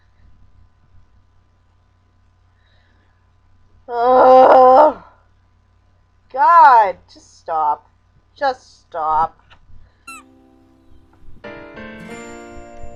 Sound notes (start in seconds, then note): 3.8 groans